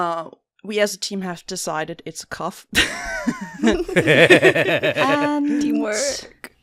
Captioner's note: laughter